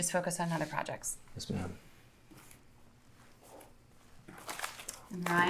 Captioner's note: papers rustling